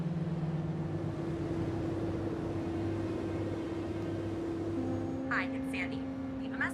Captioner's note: engine rumbling; pensive music